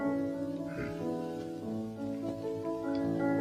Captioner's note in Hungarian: Liszt kis hümmögése